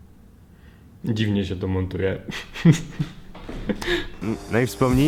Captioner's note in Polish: śmiech